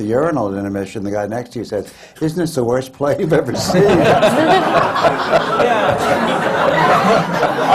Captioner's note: laughter